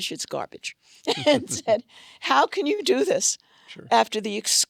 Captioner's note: laughs